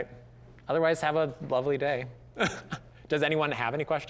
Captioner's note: chuckling